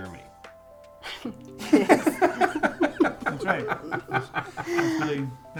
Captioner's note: laughs